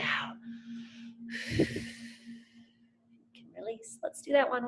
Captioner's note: exhales